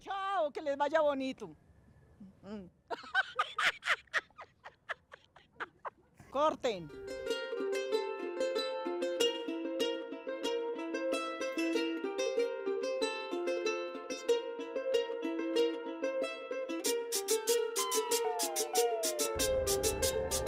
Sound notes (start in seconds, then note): 2.4 laughs